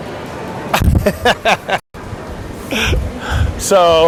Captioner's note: laughing